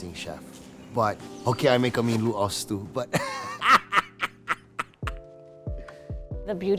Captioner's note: laughs